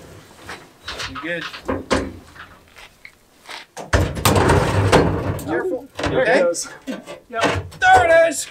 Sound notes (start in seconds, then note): 4.0 crash